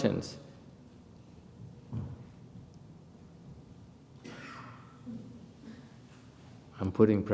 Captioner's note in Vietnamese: silence